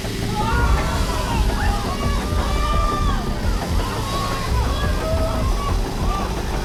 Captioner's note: chainsaw whirs; crowd shouts